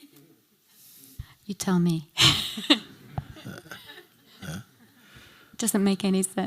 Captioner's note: laughs